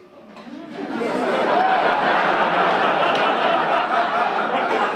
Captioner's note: audience laugh